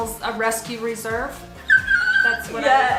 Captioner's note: squeals